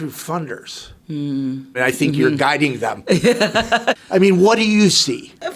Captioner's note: laughing